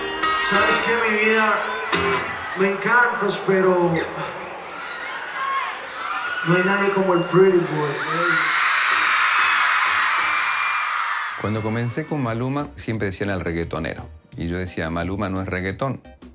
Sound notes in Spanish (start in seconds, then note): 8.2 público aclama